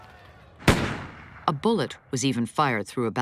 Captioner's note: gun fires, glass shatters